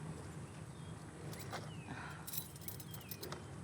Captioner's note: keys jingling